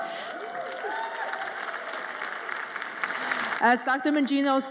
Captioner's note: audience applauds and cheers